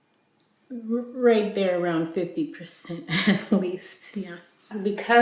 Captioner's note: chuckles